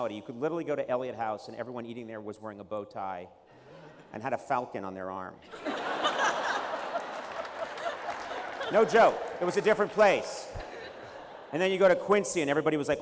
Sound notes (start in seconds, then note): 5.4 laughter